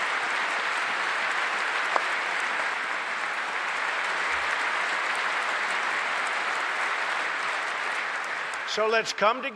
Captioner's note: applause